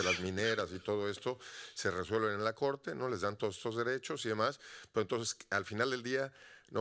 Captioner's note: audience member speaking Spanish continues